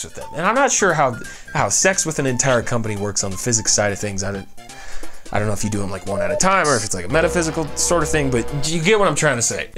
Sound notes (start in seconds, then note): 4.7 inhales